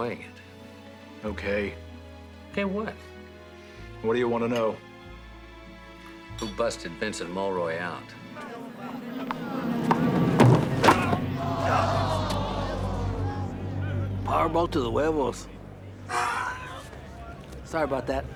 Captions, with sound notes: Well, I'm glad you're enjoying it. Okay. Okay, what? What do you want to know? Who busted Vincent Mullroy out. Oh! (men groaning) Power ball to thehuevos. (grunting)